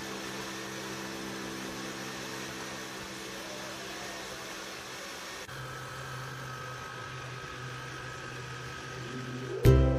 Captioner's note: blender Blending